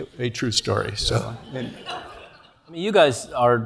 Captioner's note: laugh